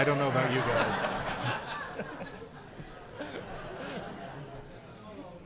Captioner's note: audience laughing